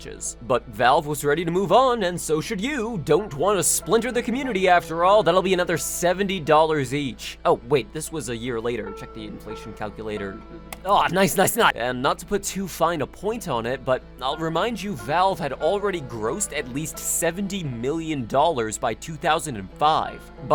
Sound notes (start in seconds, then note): 8.6 quietly; 10.7 mouse click